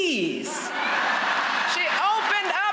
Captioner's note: laughter